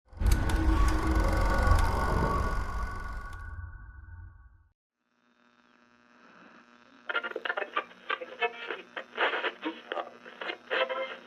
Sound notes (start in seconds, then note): 0.3 film projector sound; 7.2 radio static sounds